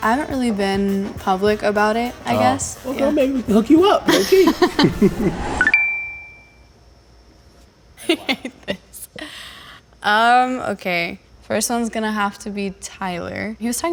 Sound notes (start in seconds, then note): 4.0 laughing; 5.5 chime; 8.0 laughs